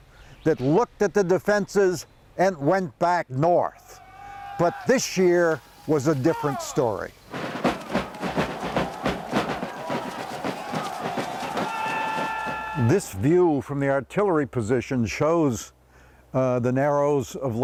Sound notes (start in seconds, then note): 7.1 drum beats; 7.6 soldiers shouting